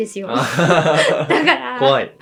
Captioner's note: laughs